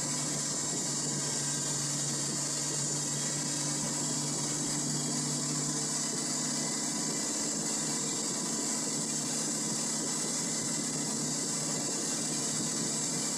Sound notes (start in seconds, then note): 0.0 engine & wheel spinning noise